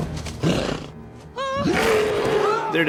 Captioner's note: roars